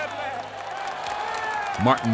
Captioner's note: cheers and applause